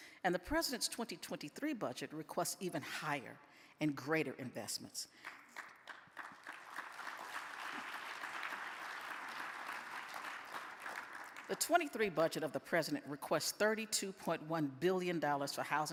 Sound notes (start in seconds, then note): 5.2 audience claps